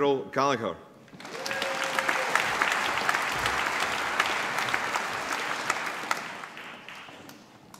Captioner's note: applause